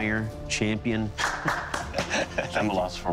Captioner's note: chuckles